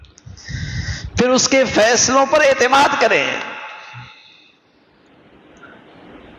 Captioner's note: sigh